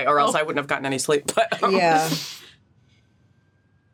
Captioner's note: chuckles